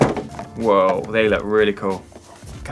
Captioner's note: box falling on ground